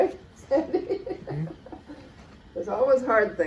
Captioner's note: laughter